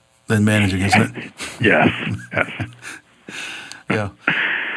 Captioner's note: laughs